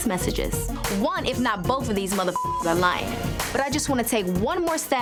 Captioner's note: beep